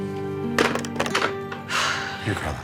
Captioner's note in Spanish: Sonido al colgar